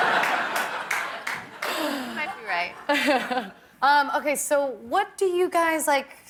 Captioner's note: laughter; laughter